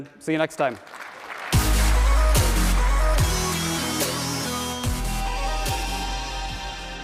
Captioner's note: audience applauding; upbeat music